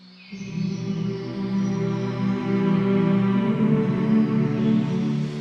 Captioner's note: birds chirping